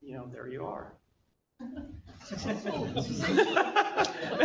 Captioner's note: laughter